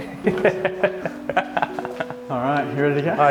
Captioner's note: laughing loudly